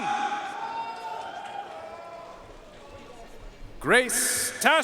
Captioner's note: audience cheering and applauding